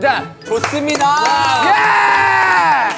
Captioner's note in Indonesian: tepuk tangan